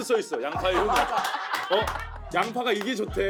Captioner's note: laughs